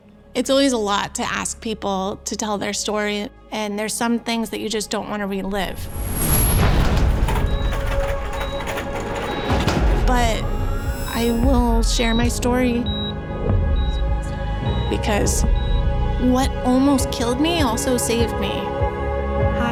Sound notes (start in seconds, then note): 6.0 machines beeping; 6.0 tense music